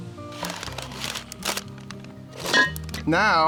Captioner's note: crinkling